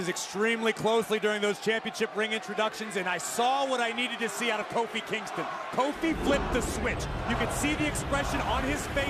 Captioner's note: cheers and jeers